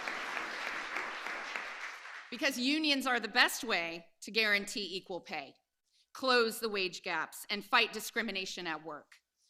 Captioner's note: applause